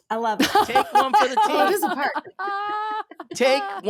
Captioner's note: laughing